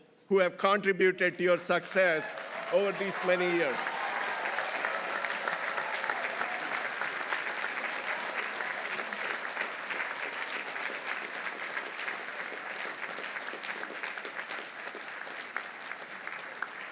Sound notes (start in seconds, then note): 5.4 audience applauding; 5.4 audience cheering